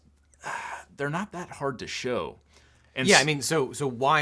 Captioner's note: sighs